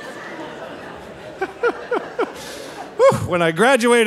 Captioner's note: laughing